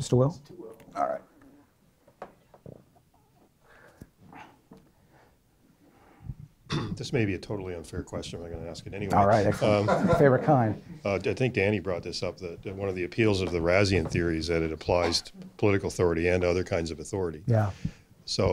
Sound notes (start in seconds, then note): 1.0 voiceover; 7.1 voiceover; 11.3 voiceover